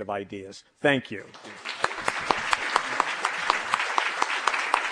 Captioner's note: applause